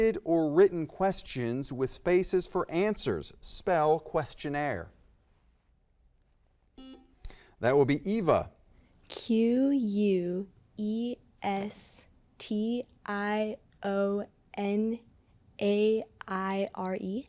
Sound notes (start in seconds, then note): 6.8 button beeping